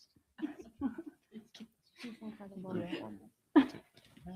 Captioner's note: faintly chattering